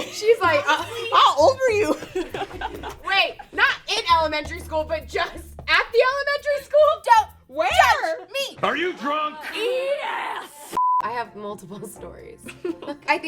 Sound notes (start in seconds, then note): 10.8 beep; 12.7 laughs